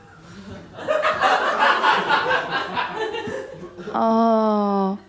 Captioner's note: laughter